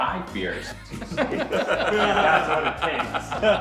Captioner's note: laughs